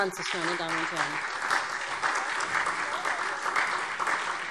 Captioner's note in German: Beifall SPD